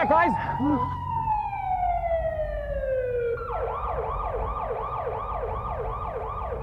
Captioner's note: ambulance siren